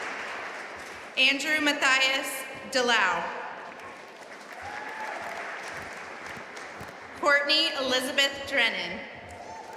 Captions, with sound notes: Andrew Mathias DeLeeuw (audience applauding) Courtney Elizabeth Drennan